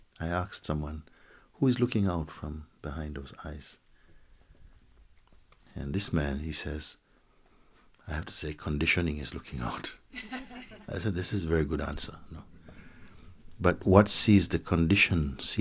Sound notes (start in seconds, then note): 10.1 laughter